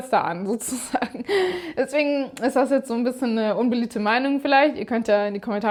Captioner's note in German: gelächter